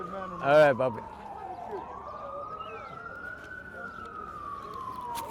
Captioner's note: sirens blaring